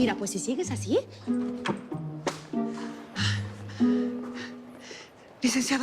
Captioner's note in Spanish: Respiración agitada